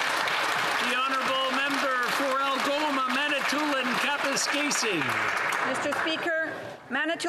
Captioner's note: applause